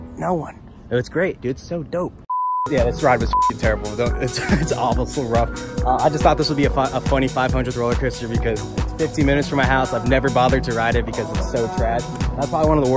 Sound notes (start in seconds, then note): 0.1 stage whisper; 4.0 laughs